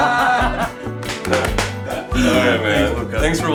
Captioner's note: both laughing; hands smacking